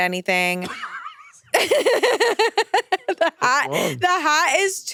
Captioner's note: laughs